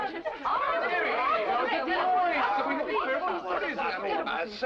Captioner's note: chuckling; guests clamoring